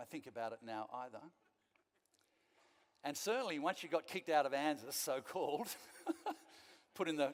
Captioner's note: laughing